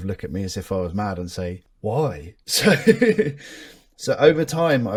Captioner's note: laughs